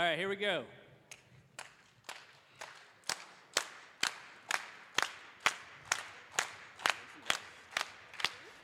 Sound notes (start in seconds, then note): 1.5 clapping